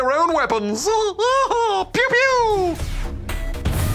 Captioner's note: laughs